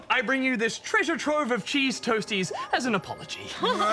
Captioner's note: both splutter and cough